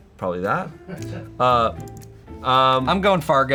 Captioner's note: crew laughs